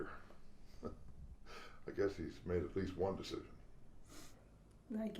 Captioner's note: chuckles